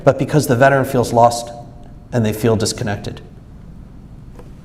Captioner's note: none